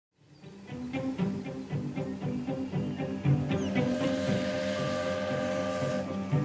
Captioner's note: soft music; train hooting